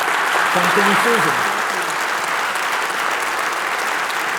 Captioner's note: applause